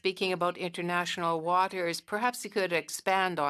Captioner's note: speaking French